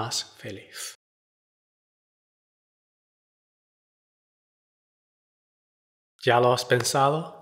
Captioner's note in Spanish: pausa